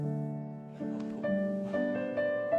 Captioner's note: chuckles